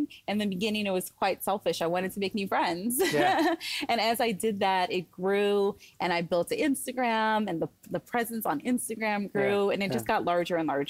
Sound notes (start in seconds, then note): 3.0 laughter